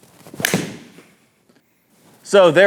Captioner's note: club hitting ball